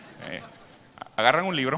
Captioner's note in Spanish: Risas